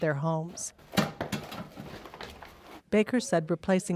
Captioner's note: tools clanking